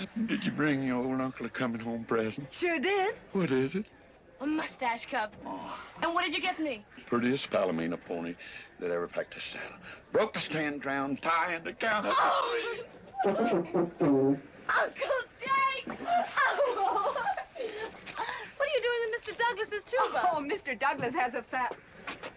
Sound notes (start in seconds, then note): 13.2 horn blaring; 16.0 giggling